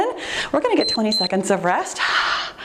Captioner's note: timer beeps